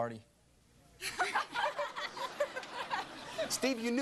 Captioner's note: laughter